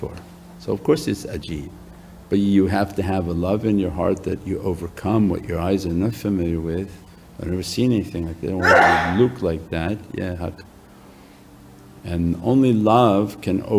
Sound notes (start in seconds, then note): 8.6 audience sneezes